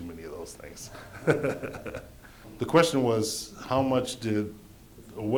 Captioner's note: laughter